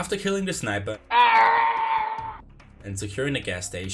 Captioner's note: Lego Yoda Death Sound